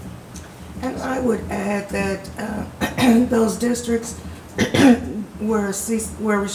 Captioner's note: clears throat